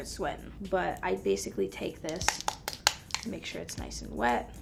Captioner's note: tapping